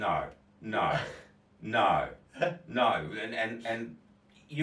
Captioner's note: chuckles